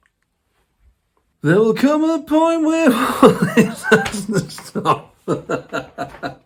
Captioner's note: starts laughing again